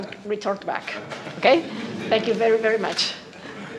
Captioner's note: laughter